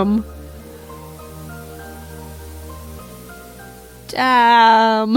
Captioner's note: Static